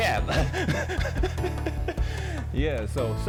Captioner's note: laughs